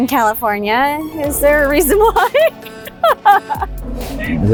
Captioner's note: laughs